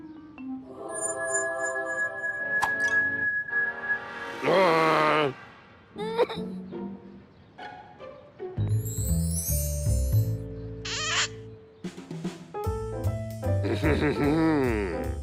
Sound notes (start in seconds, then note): 5.7 whimpers